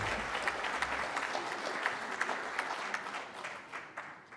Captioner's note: applause